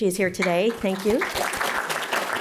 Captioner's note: applause